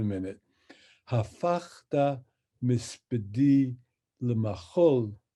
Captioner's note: speaks in Hebrew